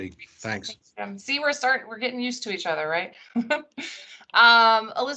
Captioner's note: chuckles